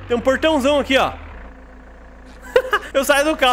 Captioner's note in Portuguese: risos